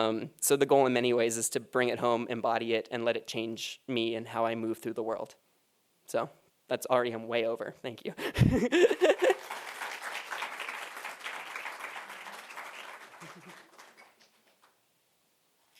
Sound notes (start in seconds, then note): 8.8 applause